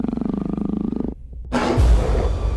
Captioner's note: snarl; low, persistent growl